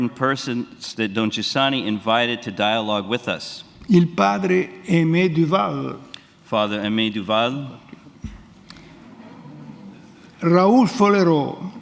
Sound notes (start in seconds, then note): 0.0 speaks in Italian; 6.9 speaks in Italian